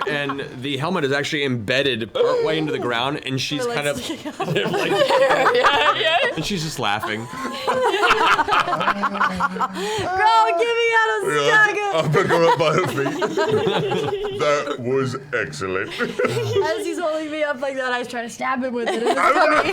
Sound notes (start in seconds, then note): 10.1 laughing; 15.7 giggles